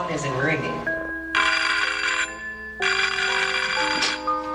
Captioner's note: phone ringing